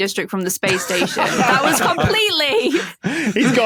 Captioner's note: group laughing